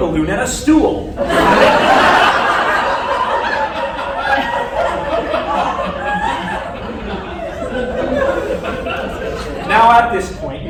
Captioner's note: laughter